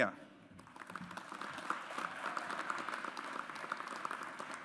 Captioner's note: audience applauds